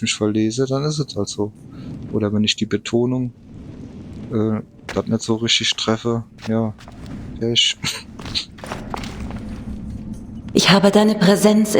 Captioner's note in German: schnauben